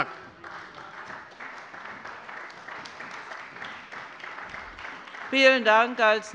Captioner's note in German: Beifall bei der CDU und dem BÜNDNIS 90/DIE GRÜNEN